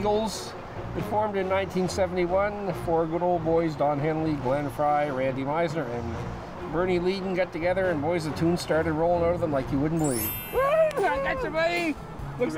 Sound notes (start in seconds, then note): 10.0 bell ringing